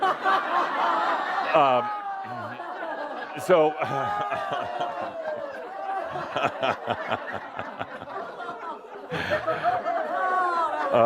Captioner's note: lots of laughter, is fanning herself; laughing